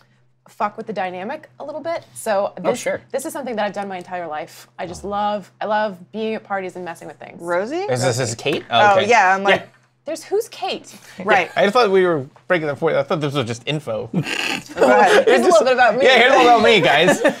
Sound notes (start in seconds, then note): 12.5 stammer